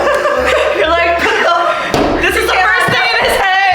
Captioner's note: laughter